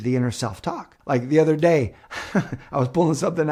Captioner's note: chuckles